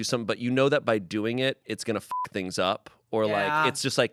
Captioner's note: beep